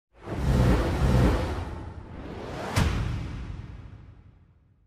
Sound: upbeat techno swoosh

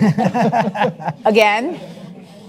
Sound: man laughs

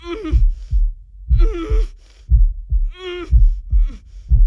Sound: moaning

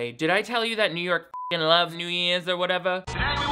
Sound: beep

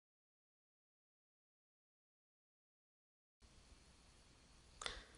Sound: silence

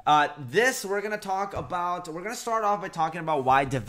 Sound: none

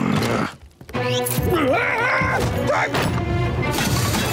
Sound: grumbling; groaning

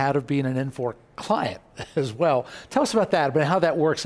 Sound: laughs

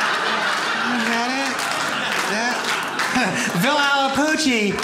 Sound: audience laughs

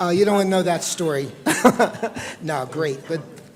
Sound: laughter

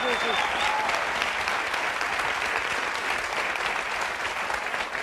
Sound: audience applauding

